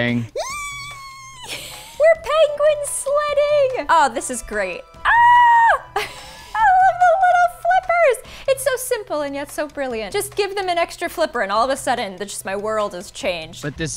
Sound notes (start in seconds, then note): 4.9 yelling; 5.9 laughing